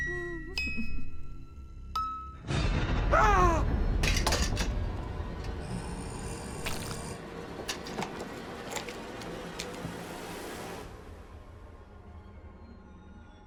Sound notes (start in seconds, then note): 0.3 crying; 3.1 yells; 4.3 suspenseful music; 5.4 doll growling